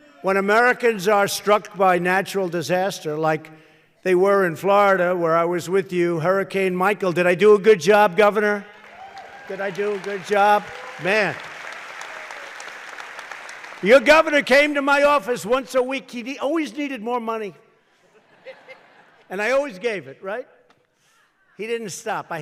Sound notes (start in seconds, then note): 8.6 applause; 17.9 laughter